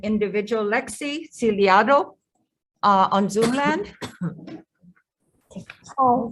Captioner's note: woman coughs